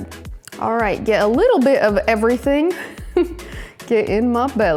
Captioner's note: laughs